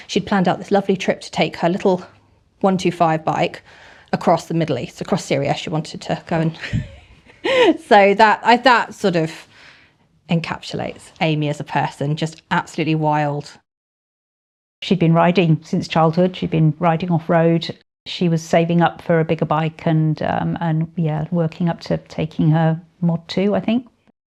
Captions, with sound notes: she'd planned out this lovely trip to take her little 125cc bike across the Middle East, across Syria she wanted to go and...[laughs] So that, that sort of encapsulates Amy as a person just absolutely wild. She'd been riding since childhood. She'd been riding off road. She was saving up for a bigger bike and yeah working up to taking her mod 2, I think.